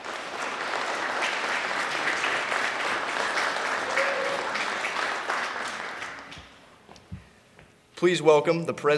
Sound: applause

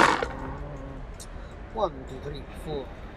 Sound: dice rattling

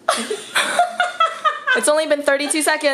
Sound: laughing

